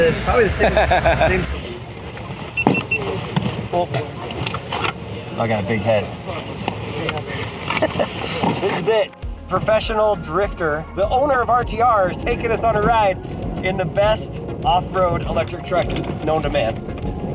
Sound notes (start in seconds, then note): 0.0 laughs; 2.7 beeping